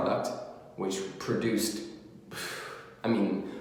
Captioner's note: exhales deeply